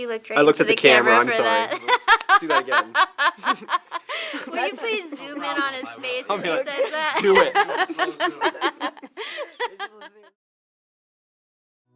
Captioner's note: laughter